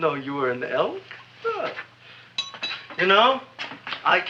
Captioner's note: tooth clinks